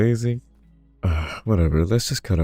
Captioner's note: sigh